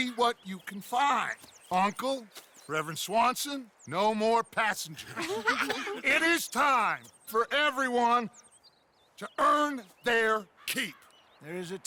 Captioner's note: everyone laugh